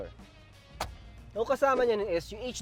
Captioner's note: monitor clicks in place